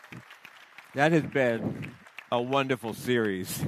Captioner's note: applause